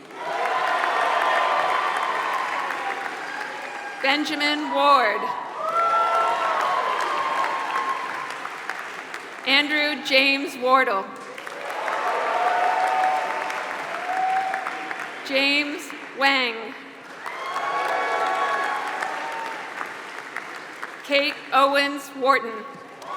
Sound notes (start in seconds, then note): 0.0 applause